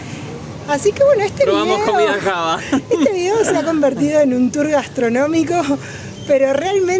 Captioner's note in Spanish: risas